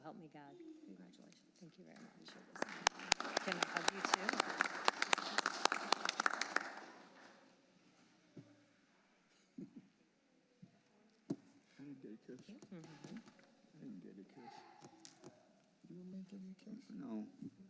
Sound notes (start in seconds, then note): 5.9 applause